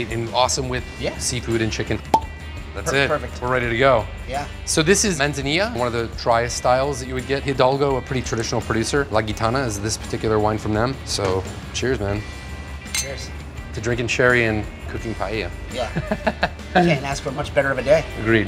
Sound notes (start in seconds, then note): 2.0 cork pops; 12.8 glasses clink; 15.8 laughs